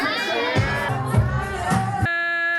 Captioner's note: cheering